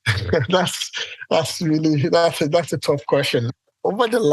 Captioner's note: laughs